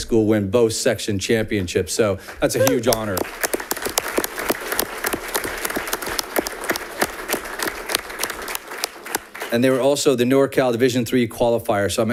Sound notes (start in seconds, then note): 2.3 audience clapping